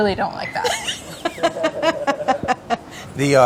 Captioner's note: laughter